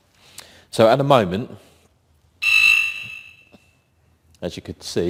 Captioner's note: siren single chirp